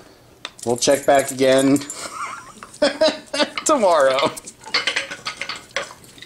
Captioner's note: laughing